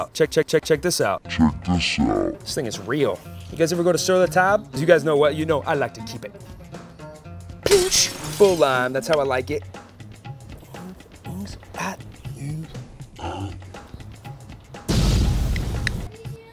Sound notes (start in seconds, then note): 7.6 glass breaking; 14.9 crashing noise